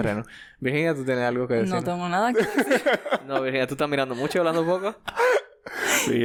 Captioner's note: laughs